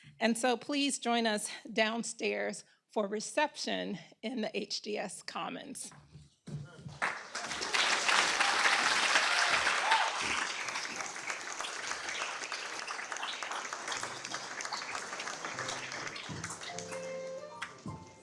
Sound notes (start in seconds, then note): 6.8 applause